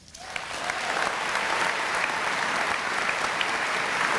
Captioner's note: applause